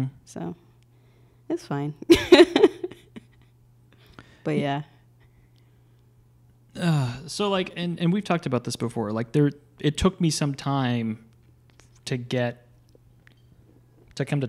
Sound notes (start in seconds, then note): 2.0 laughs; 6.7 groans